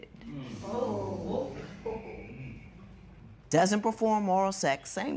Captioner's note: spectators murmur